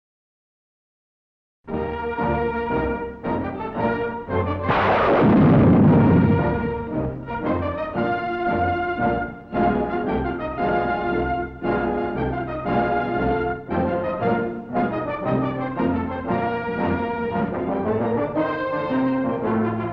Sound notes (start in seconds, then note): 1.9 dramatic music; 4.6 guns blasting; 7.3 dramatic music